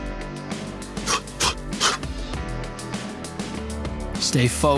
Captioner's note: sharp exhaling